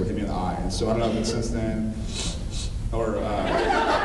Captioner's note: sniff sniff; laughs